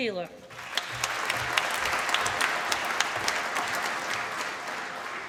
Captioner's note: applause